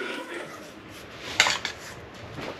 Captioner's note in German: Klappern